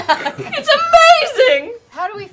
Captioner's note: slow-mo voice